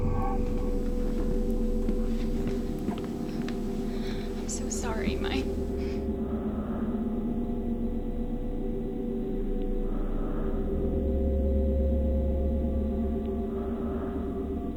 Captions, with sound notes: (chilling music) I'm so sorry, Mike. (heavy breathing) (chilling music)